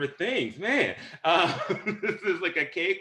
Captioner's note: laughter